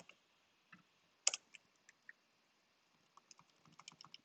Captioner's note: keyboard rattling